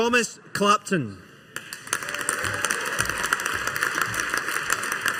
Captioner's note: audience applauding